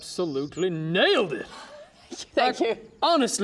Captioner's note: sighs